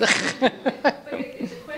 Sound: laughter

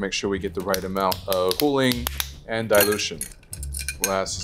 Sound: spoon tapping

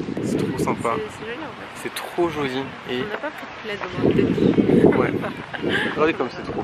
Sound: laughs

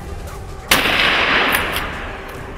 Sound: gunshot

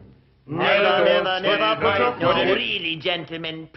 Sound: voices clamoring

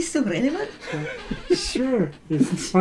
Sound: laughs

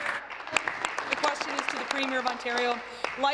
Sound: applause

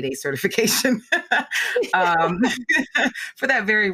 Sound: laughing

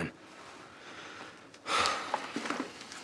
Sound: Aaron sighs

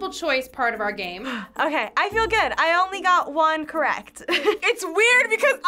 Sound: laughs

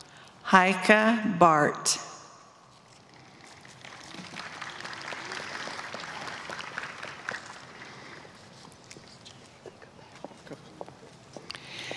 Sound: applause

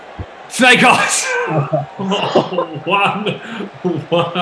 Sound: laughs

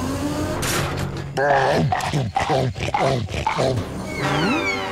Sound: chomping

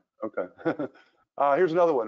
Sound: laughs

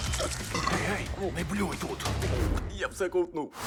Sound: whispers

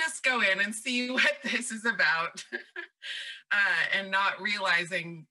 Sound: laughs

